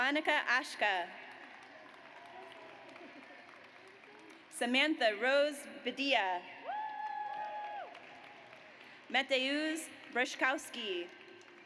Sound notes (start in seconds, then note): 0.0 audience applauds; 6.7 audience cheers